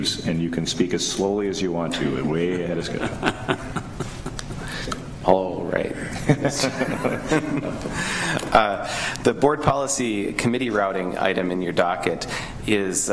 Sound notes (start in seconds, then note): 2.4 laughing; 6.1 laughing